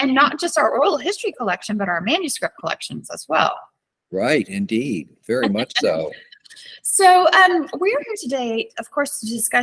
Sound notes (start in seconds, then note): 5.3 laughs